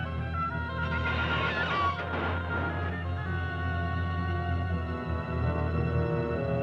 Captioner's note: distant clattering and screeching; tense mysterious music continues